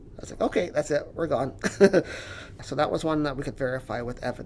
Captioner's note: laughs